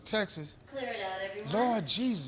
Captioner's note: intercom Voice